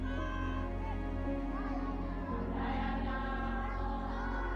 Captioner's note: crowd cheers